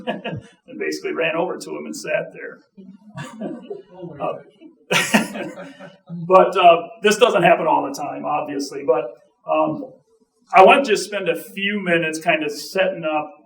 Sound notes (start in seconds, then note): 4.9 audience chuckling